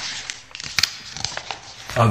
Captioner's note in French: bruit de quelqu'un qui tourne les pages d'un livre